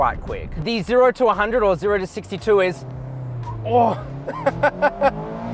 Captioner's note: laughs